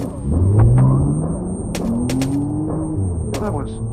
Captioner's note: gun firing; car revving; ominous music playing; gun firing